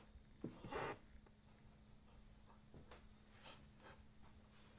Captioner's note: floor creaking